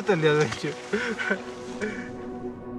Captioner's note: laughter